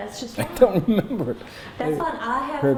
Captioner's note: laughs